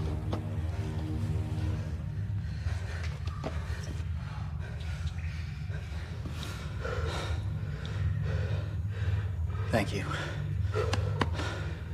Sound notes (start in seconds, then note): 0.3 music stops; 3.9 all breath heavily